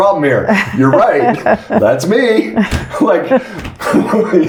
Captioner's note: laughing